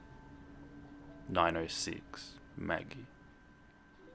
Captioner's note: Facebook message sound